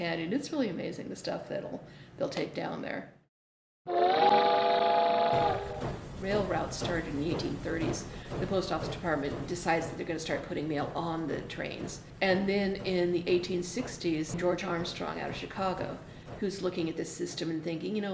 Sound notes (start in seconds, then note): 3.9 train sounds